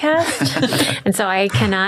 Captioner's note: laughing